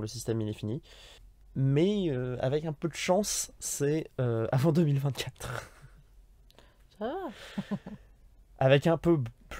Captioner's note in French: Rires